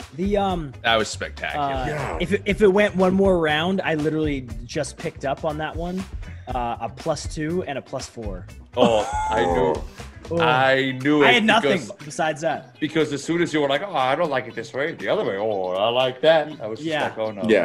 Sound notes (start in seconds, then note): 8.8 laugh